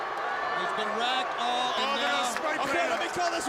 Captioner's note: crowd chatter